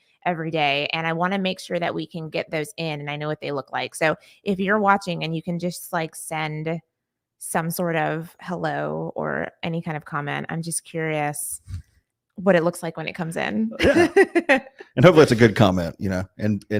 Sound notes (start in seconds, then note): 13.7 laughing